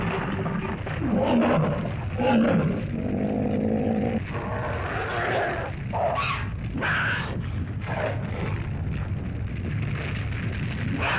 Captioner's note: earth rumbles; fire crackles; dinosaurs growl